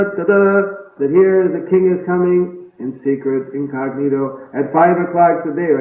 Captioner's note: imitates trumpeting sound